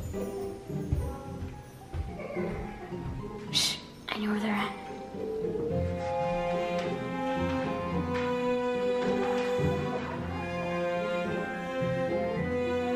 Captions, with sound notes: (background chattering) - Ssh, I know where they're at. (soft mischievous music)